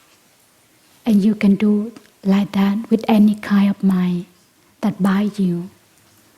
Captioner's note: none